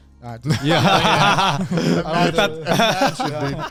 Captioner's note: all laugh